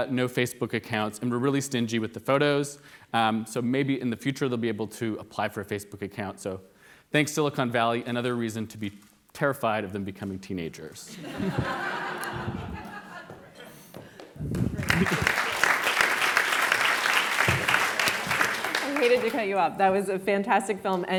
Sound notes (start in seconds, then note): 11.1 audience laughs; 13.9 audience applauds